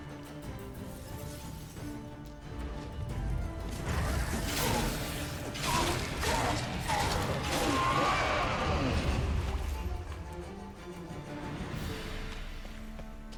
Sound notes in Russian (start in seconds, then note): 0.9 крик; 0.9 стон